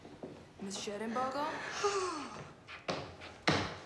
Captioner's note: sighs